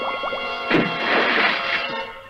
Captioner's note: splash!